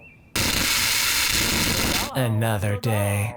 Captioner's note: crash static